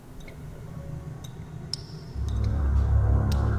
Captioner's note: water drips; ominous music